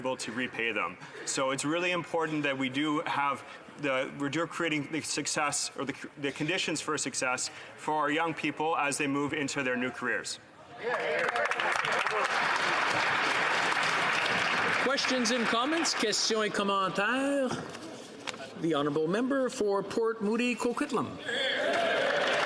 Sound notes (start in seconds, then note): 14.4 some Applause